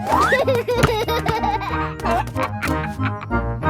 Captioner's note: giggles